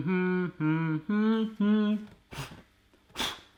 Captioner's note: humming